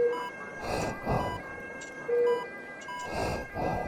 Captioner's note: faster breathing rhythm